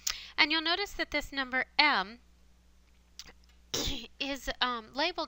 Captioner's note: cough